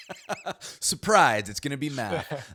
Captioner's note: laughs